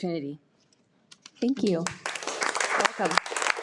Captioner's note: audience applauding